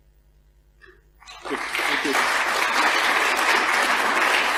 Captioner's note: applause